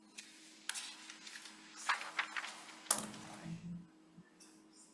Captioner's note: paper rustling